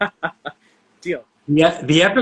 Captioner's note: laughing